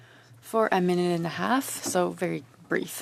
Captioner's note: speaking French